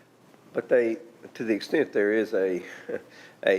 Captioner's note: chuckles